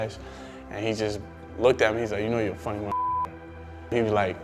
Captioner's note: beep